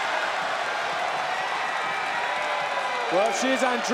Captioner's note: crowd cheering